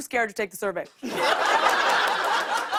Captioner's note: laughter